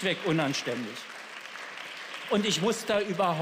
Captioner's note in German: Beifall